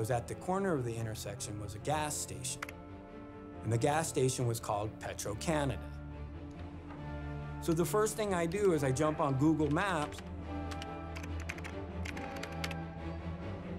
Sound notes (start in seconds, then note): 10.3 typing